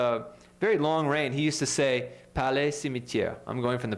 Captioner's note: speaking french